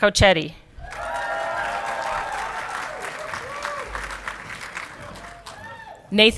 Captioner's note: audience clapping and cheering